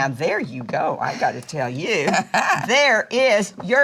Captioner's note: Dory laughs